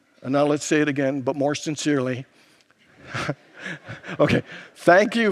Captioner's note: laughs